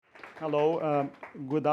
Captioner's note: applause